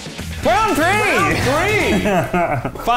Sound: laughs

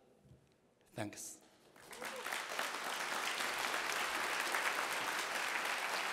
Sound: applause

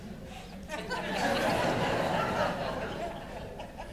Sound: laughter

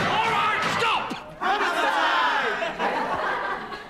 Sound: laughter

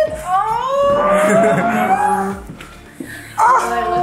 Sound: chuckles

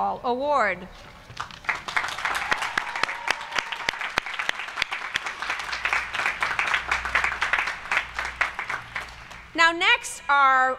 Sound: applause

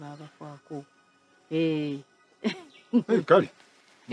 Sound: chuckles

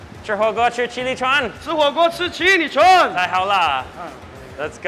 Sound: speaks mandarin

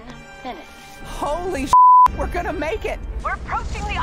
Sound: beep

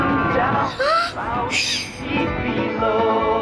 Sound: gasps; chuckles

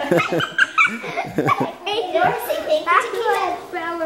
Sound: laughing

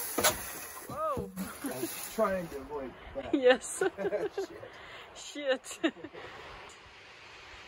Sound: laughters

